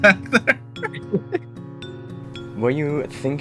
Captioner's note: both Chuckle